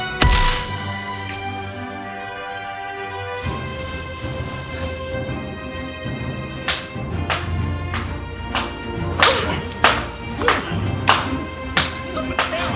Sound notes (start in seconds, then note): 0.1 whack; 1.2 snaps